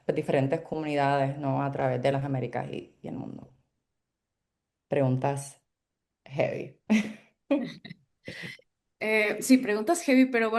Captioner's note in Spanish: risas